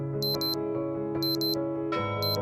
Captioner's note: beep Sound